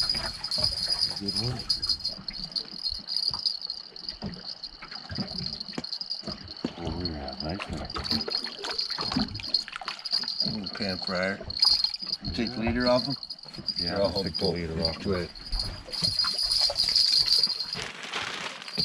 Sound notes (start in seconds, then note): 1.8 jangling; 7.6 fish splashing; 10.7 jangling; 16.8 jangling